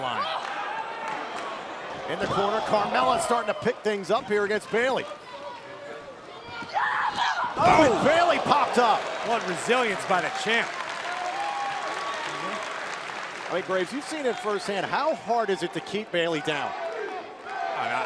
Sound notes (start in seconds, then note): 11.0 crowd cheering